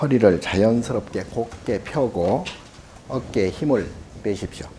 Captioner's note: speaking Korean